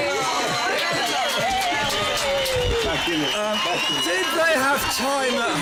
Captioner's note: cheers